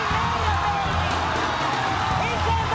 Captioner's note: audience cheers